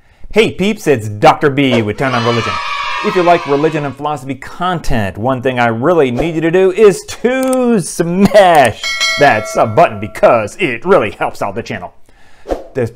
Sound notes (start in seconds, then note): 1.8 kids cheering; 8.6 bell ringing